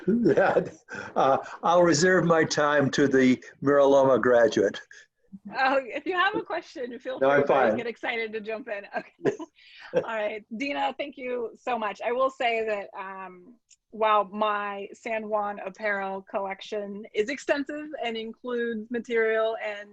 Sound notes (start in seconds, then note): 0.0 chuckles; 9.7 chuckles